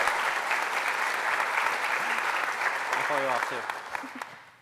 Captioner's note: applause